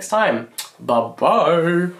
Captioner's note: lips smack